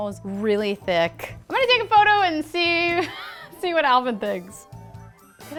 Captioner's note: laughs